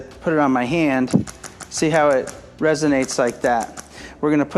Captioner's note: device clicking